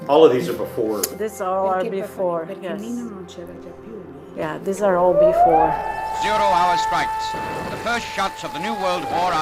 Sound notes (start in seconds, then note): 2.7 speaking in foreign language; 4.9 alarm blaring